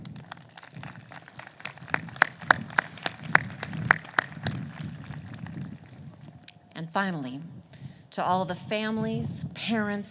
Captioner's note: applause